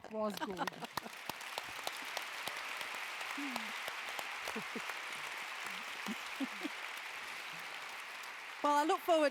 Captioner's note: applause; laugh